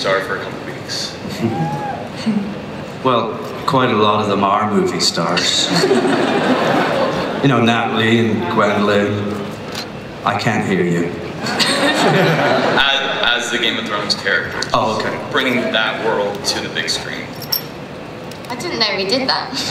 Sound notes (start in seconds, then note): 5.4 laughter; 12.6 voiceover